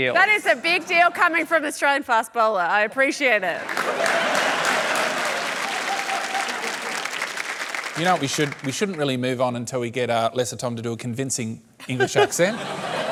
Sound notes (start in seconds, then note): 3.5 laughter and applause